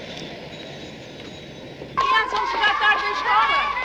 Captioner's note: speaking portuguese